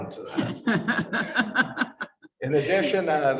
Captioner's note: panelists laughing